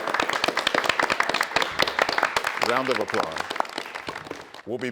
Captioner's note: all applauding